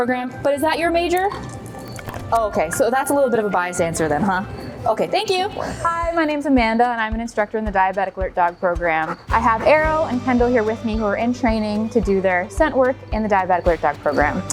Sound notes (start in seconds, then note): 0.0 mic rustles; 1.1 chewing